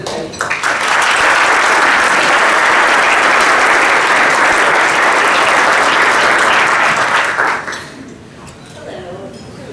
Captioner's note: applause